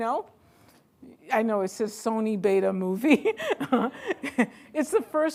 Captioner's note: laughing